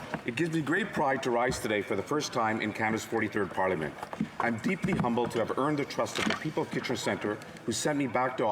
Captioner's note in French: voix de l'interprète